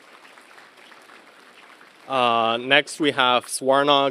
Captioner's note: applause